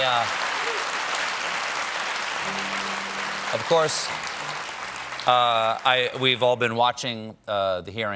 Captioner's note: cheers and applause